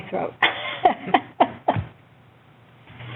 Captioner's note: laughs